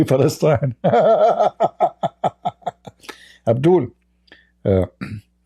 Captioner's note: Ketawa